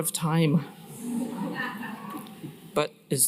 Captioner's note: laughter